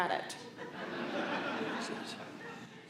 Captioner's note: laughter